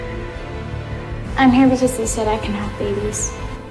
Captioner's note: voiceover